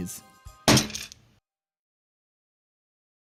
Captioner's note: loud, jangling thump